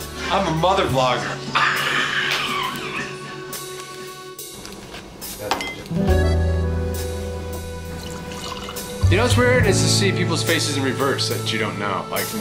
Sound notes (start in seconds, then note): 3.2 laughs